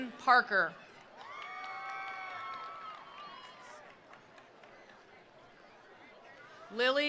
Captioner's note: attendees cheering; attendees applauding